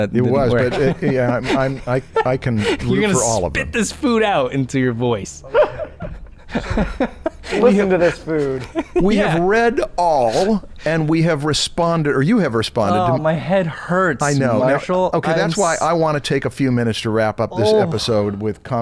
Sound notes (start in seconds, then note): 5.4 chuckles